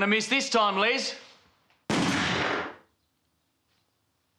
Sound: gun fires

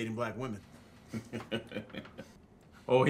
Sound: laughter

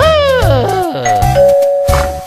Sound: ding dong

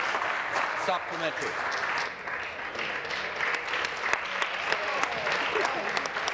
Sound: applause

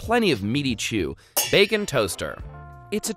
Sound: pans clanging

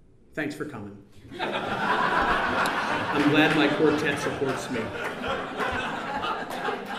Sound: laughter

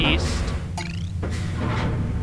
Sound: clank chirp

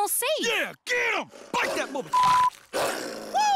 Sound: crunch

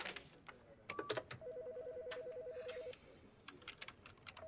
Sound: telephone ringing

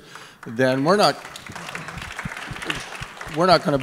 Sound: applause

